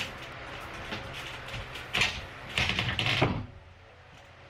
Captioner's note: more and more creaking wood